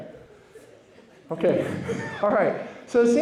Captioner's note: laughter